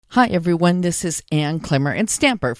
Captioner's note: voiceover